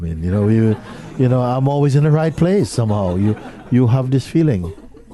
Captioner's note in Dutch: gelach